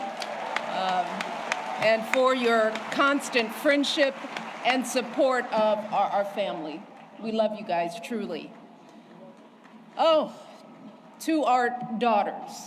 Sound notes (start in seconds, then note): 4.7 applause